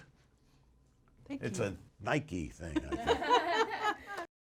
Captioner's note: off camera laughter